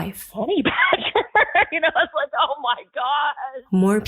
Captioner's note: laughs